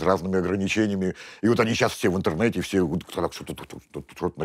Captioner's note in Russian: пыхтит